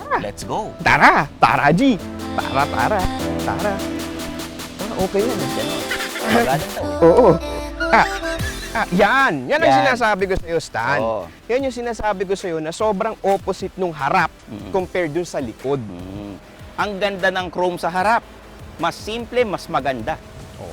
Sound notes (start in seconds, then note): 8.4 laughs